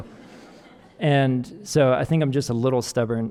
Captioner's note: audience laughing